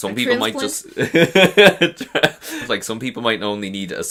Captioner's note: laughs